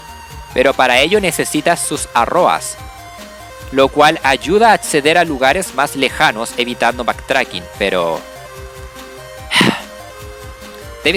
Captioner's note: ahem